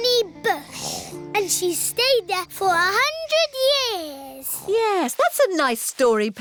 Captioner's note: snoring